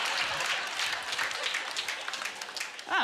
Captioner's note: audience laughter; applause